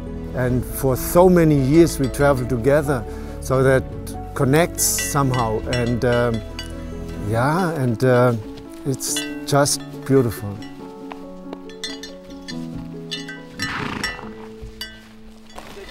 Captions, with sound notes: And for so many years we travel together, so that connects somehow. And, yeah, and it's just beautiful. (bell ringing) (light inspirational music)